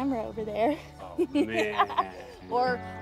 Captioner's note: Keely laughs